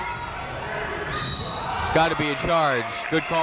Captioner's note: whistle tweeting